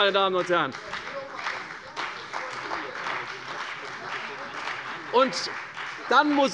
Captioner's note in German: Beifall bei der CDU und der FDP